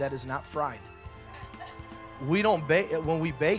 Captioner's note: laughter